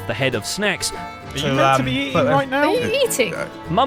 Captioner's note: slightly muffled